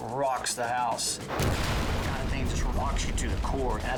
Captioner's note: fireworks exploding